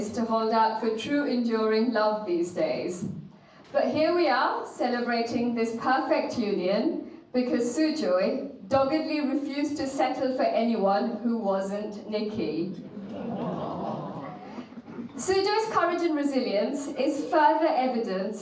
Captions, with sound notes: to hold out for true enduring love these days. But here we are, celebrating this perfect union because Sujoy doggedly refused to settle for anyone who wasn't Nikki. (audience laughing) Sujoy's courage and resilience is further evidenced